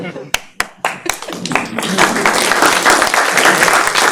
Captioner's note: laughter; clapping